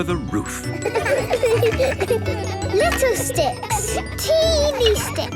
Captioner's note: laughter